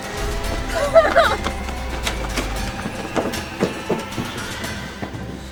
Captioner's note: dramatic music; whimpering